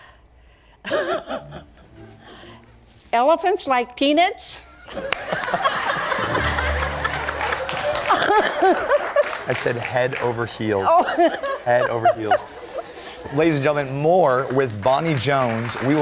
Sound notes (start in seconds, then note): 4.8 laughs; 10.8 laughter